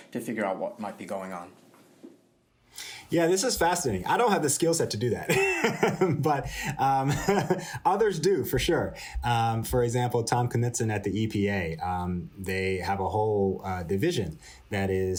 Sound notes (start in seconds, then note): 5.2 laughter